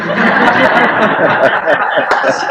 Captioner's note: laughter